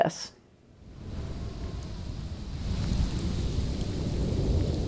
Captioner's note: wind howling